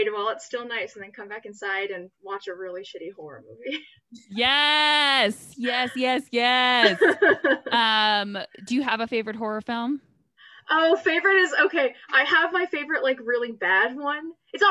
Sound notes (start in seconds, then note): 3.8 laughs